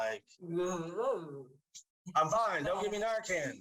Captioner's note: speaks gibberish